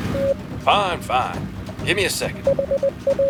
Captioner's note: morse code